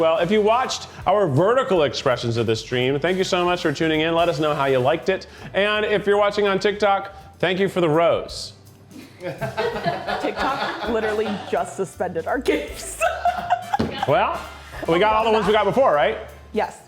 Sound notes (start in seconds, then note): 9.1 crew laughing; 12.6 laughing